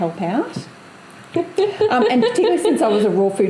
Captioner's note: laughs